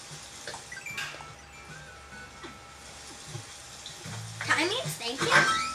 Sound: door slams; bells chiming

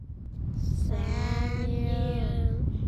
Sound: in spooky voice

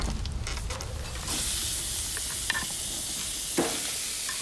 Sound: wood clatters; meat sizzles

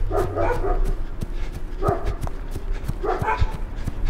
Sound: dogs barking

